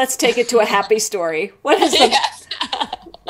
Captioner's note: laughs